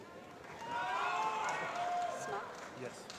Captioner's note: applause